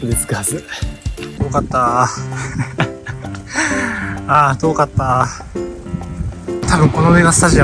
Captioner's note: laughs